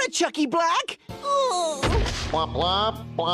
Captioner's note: kid moaning; body thudding